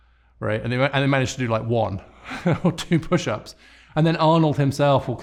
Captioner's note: chuckling